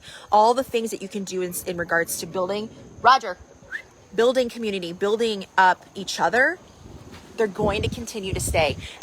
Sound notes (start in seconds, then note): 3.6 whistles